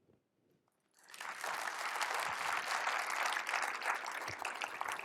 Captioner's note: applause